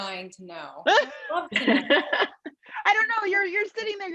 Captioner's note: laughs